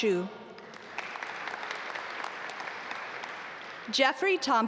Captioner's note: audience applaud